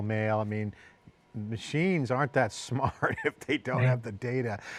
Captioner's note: laughs